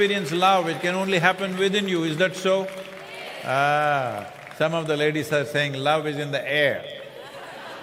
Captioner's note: laughter